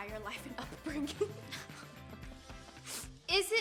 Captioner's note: chuckling